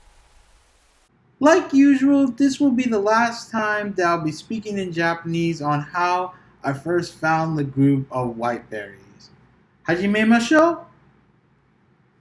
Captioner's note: says let us begin in Japanese